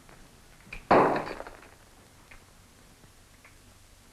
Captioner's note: clang